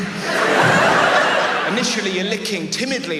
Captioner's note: audience laughs